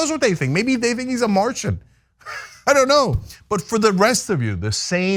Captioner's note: laugh